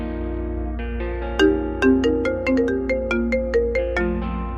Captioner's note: mobile phone ringing